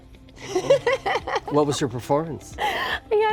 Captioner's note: laughs